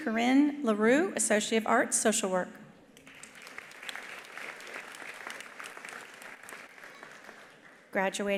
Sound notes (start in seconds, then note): 3.0 attendees applauding